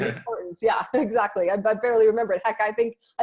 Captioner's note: laughs